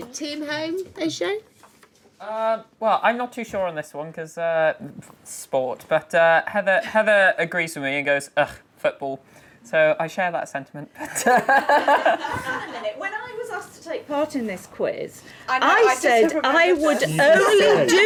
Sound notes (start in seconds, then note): 11.4 laughing